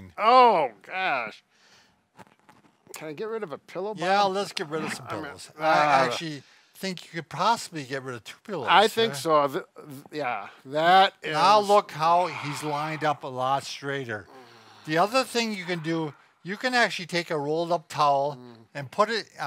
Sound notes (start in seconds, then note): 12.0 sighs